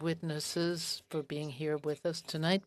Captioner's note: speaking French